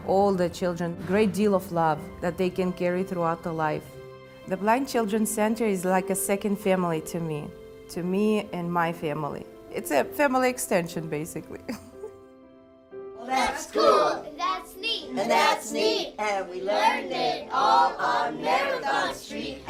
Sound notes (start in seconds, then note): 13.6 children chanting